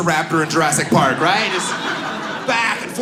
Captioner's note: audience laughs